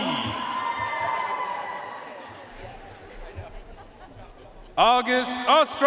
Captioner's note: audience cheering and applauding